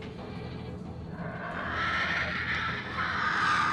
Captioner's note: screeches